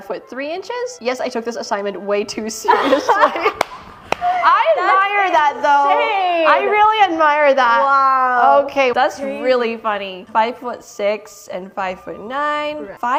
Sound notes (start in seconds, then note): 2.6 laughs